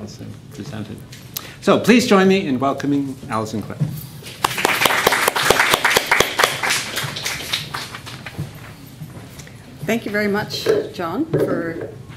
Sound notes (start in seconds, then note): 4.2 applause